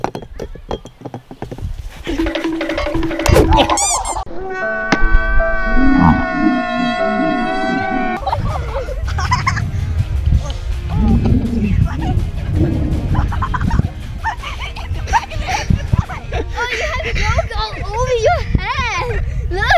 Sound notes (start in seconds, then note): 2.2 timer counting down; 5.1 sad music and crying; 8.1 laughing; 11.0 upbeat music